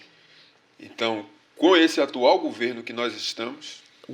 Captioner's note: speaking portuguese